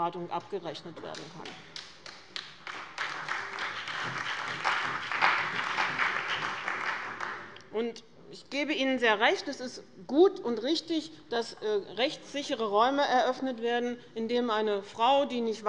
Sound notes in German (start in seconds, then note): 1.4 Beifall bei dem BÜNDNIS 90/DIE GRÜNEN und der CDU